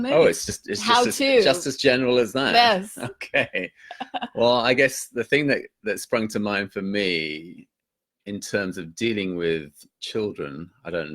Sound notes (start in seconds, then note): 3.2 laughs